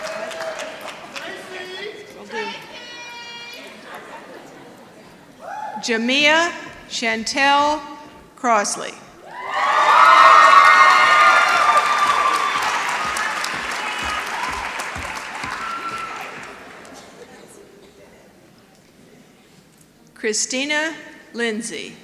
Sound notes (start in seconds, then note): 9.6 applause